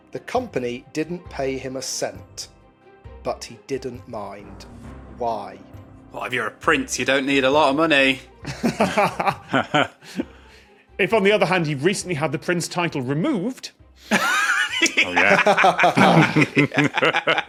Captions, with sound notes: The company didn't pay him a cent, but he didn't mind. Why? Well, if you're a prince, you don't need a lot of money. (laughs) (chuckles) If, on the other hand, he recently had the prince title removed. Oh yeah. (guests laughing)